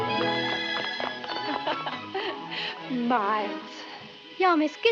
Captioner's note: laughs